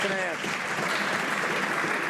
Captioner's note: some Applause